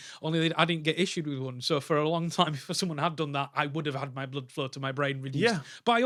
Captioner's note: none